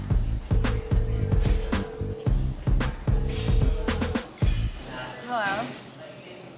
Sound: phone ringing

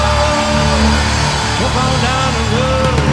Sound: audience cheering

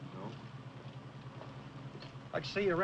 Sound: footsteps approaching

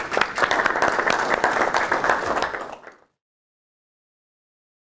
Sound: audience applauding

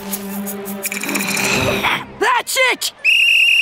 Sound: growling; whistling

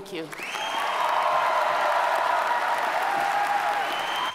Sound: audience applauding

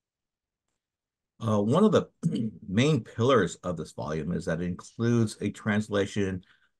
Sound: cough

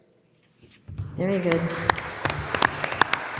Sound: audience applauding

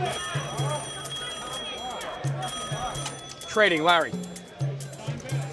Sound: phone rings, answers; on phone

